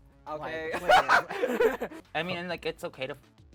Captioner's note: laughs